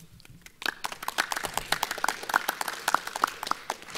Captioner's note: clapping